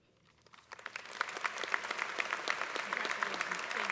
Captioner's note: applause